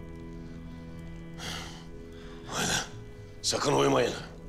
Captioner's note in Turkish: Nefes veriyor